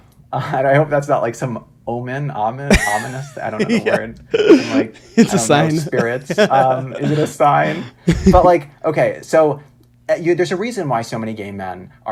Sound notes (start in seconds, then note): 6.5 laughs